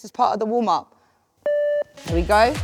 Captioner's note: beep